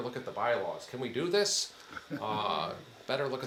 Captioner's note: attendee chuckling